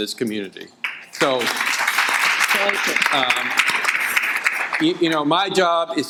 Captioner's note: audience applauding